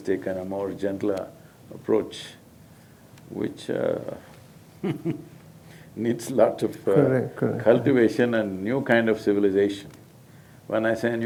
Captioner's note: laughs